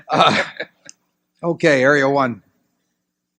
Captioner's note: laughter